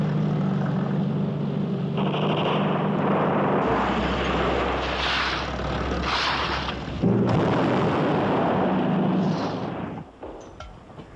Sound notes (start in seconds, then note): 6.3 engine cuts out; 6.3 explosion